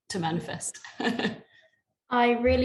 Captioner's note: laughter